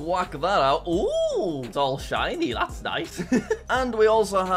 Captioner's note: chuckles